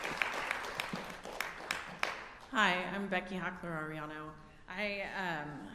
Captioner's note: applause